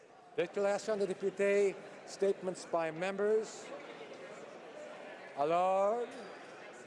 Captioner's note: speaking French